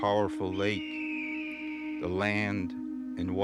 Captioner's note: bird screeching